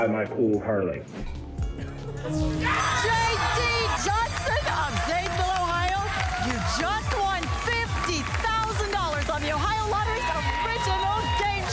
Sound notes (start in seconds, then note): 2.3 ping